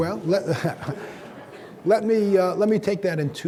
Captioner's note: audience laughing; laughs